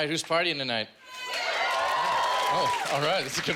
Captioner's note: cheers and applause